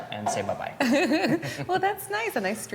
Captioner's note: laughs